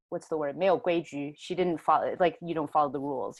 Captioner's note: Mandarin